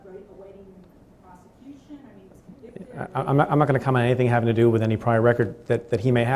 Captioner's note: stutters